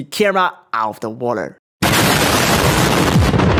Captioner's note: explosion